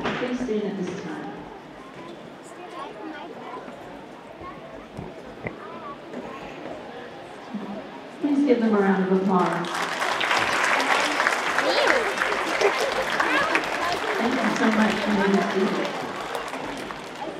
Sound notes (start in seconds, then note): 1.2 students murmuring indiscernibly; 9.4 audience applauding